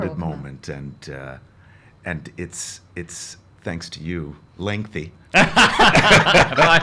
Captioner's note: laughs